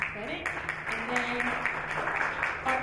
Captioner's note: applause